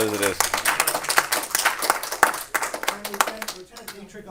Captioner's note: clapping; audience clapping